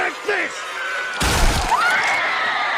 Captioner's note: screaming; flesh exploding, blood spurting